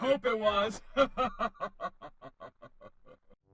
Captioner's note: laughing